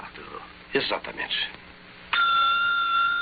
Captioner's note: bell ringing